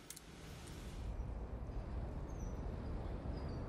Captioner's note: hissing wind, birds chirping